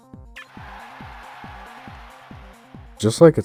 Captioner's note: crowd cheering